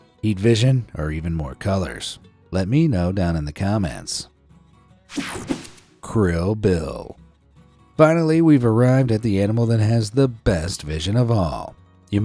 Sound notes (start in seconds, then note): 5.1 air whooshing